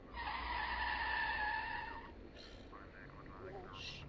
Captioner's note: car tires screeching